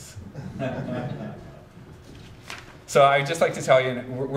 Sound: audience chuckles

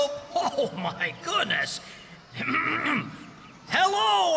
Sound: clears Throat

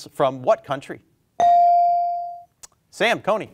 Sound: bell ringing

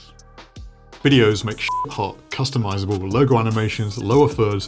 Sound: beep

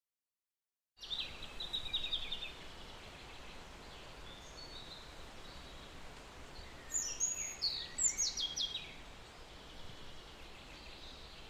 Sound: sound of forest

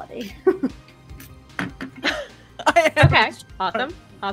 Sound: laughing

